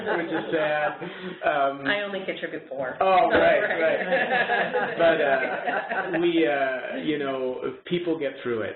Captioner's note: chuckles; chuckles